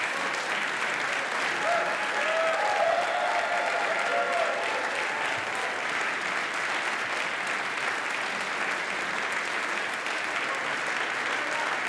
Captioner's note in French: Applaudissements